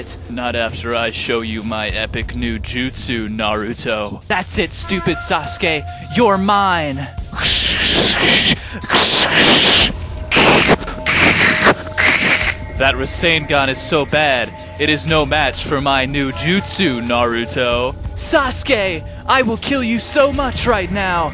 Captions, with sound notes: Not after I show you my epic new jutsu, Naruto! That's it stupid Sasuke! You're mine! *Confusing swishing noises* *Also confusing lightning noises* That Rasengan is so bad, it is no match for my new jutsu, Naruto! Sasuke, I will kill you so much right now!